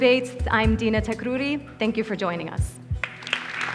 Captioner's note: audience applauds